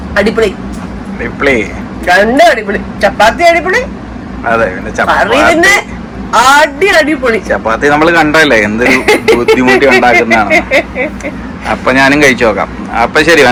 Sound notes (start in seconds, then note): 8.9 laughs